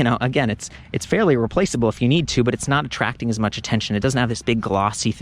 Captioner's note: none